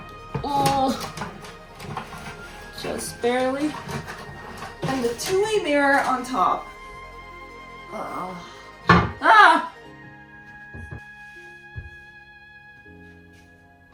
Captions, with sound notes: Just barely. And the two way mirror on top. *Noise of mirror dropping* AAH